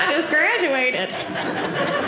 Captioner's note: audience laughing